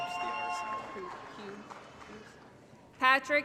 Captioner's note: applause & Cheering